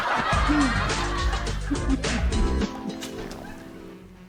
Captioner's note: audience laughs